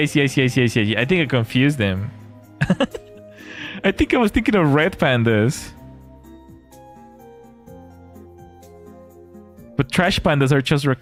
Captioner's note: laughter